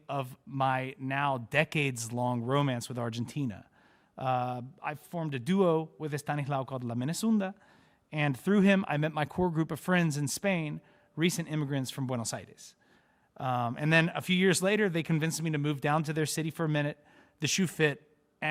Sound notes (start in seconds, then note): none